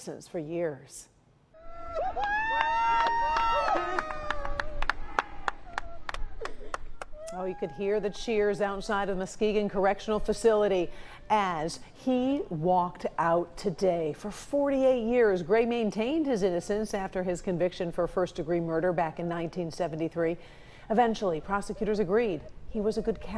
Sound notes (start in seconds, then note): 4.2 cheers and applause